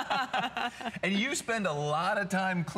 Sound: laughter

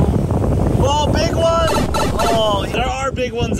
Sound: mario tunnel sound

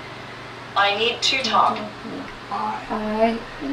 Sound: voiceover

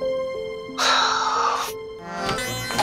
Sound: sighs

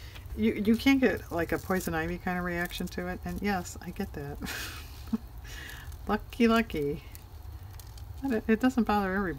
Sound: laughs

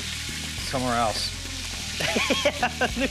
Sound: laughing

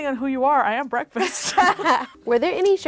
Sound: both laughing

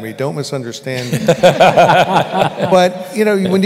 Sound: laughter

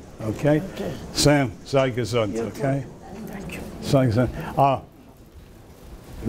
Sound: speaks foreign language

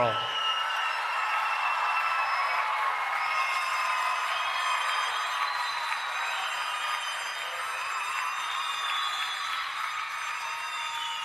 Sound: applause and Cheering

